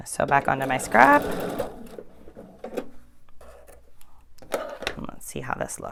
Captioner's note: sewing machine whirring